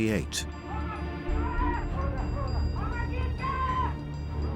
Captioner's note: soldiers shouting